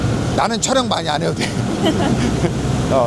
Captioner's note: laughs